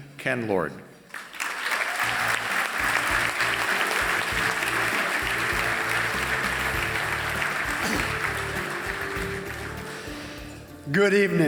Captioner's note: applause